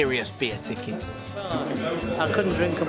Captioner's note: ding